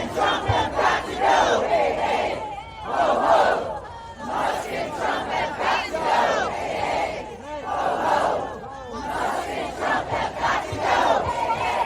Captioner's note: chanting